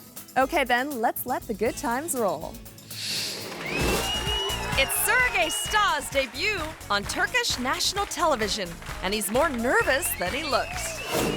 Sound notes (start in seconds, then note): 3.7 audience applauding